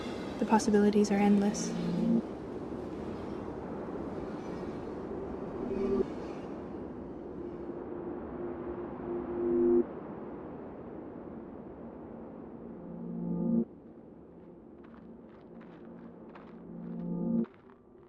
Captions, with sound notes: The possibilities are endless. (wind) (footsteps in sand)